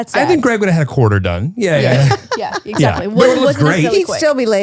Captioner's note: laughs